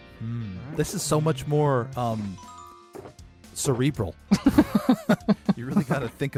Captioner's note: laughs